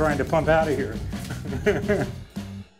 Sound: chuckles

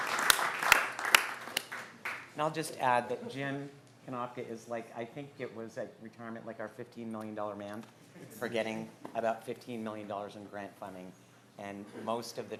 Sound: applause

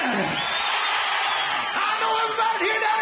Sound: audience cheering

